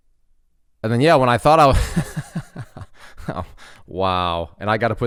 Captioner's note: laughs